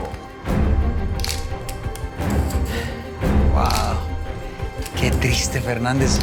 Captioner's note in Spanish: Ruido del disparador